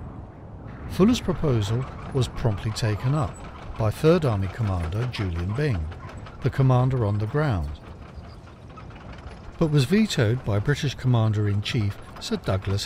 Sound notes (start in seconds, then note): 0.7 engine hums